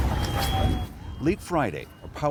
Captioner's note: sirens blaring